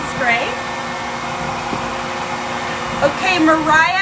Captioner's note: hair dryer whirs continues